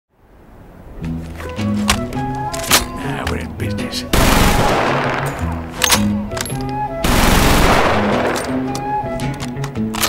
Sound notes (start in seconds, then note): 4.1 gun jam